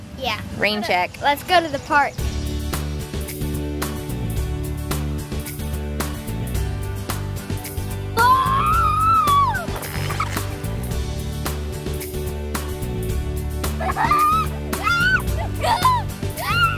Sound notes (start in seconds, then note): 3.1 upbeat music; 8.2 screams; 14.8 giggling